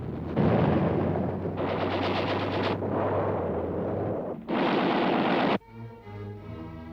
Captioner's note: explosions; gunfire